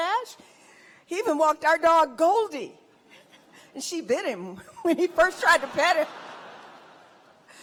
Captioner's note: laughter